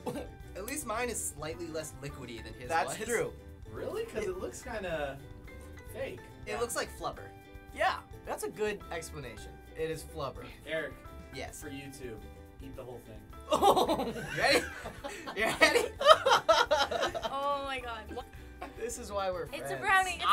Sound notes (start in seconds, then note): 13.5 laughs; 16.3 laughing